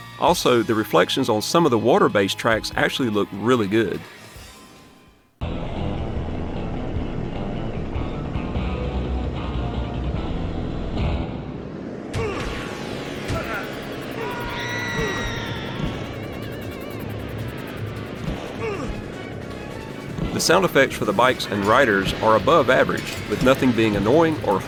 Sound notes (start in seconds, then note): 5.5 game music; 5.5 game sounds